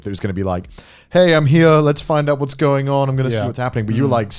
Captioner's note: speaking in foreign language